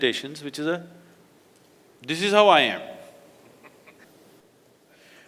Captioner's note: laughs